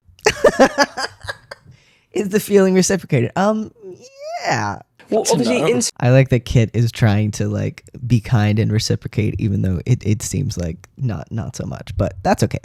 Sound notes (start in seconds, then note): 0.2 laughter; 3.5 high voice